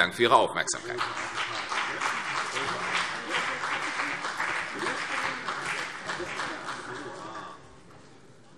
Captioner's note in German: Beifall CDU und vereinzelt BÜNDNIS 90/DIE GRÜNEN